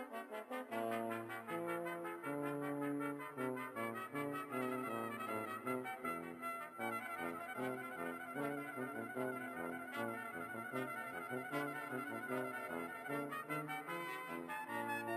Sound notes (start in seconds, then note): none